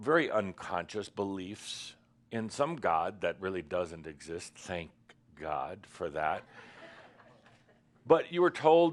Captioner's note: a few chuckles